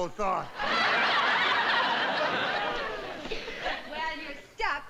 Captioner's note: audience laughing